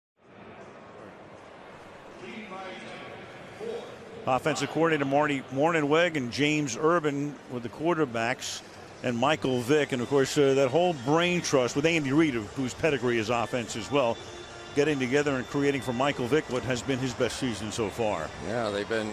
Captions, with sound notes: [pa announcement] Offensive coordinator Marty Mornhinweg and James Urban with the quarterbacks and Michael Vick. And, of course, that whole brain trust with Andy Reid, whose pedigree is offense as well, getting together and creating for Michael Vick what has been his best season so far.